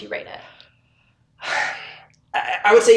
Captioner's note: deep sigh